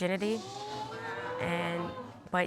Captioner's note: audience gasping